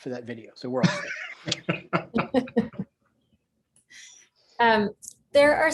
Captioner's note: laughter